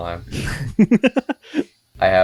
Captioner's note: laughs